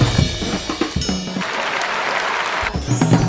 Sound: applause

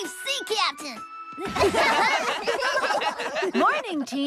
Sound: all Laugh

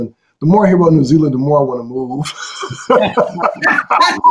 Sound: laughing

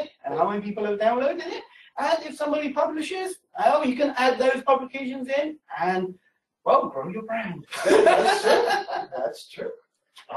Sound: laughter

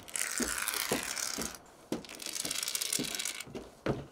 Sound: applicator scraping

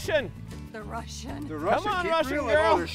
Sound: laughs

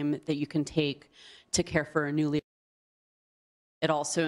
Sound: muted

